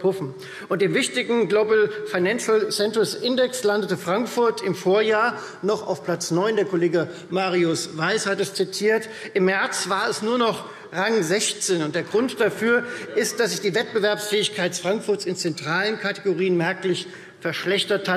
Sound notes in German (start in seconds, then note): none